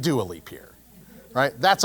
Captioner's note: laugh